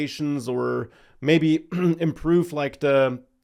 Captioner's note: clears throat